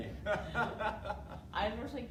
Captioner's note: laughing